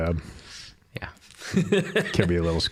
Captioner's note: laughing